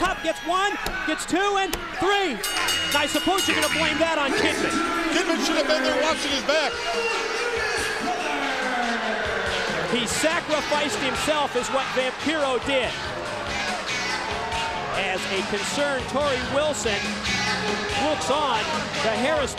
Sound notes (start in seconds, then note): 2.3 bell ringing